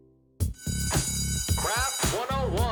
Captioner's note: bell ringing